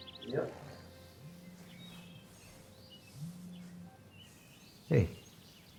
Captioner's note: phone vibrating